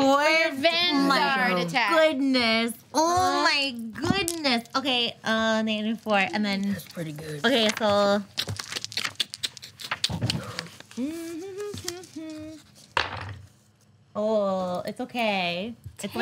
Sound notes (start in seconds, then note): 9.1 dice clacking; 11.2 humming